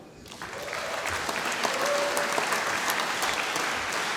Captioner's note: applause